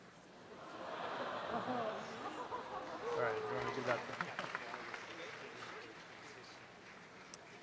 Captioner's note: audience applause